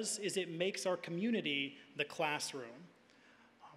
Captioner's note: none